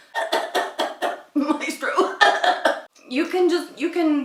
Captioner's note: cough, cough